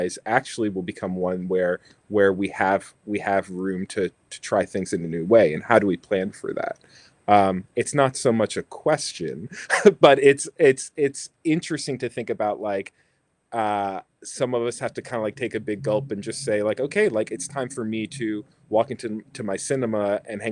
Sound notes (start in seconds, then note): 9.4 laughs